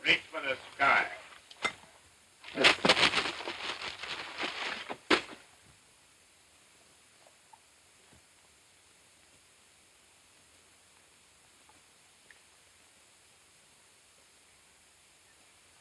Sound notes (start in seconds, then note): 1.6 cup clinks; 2.4 package rustling